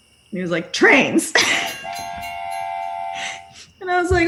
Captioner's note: laughter; train whistle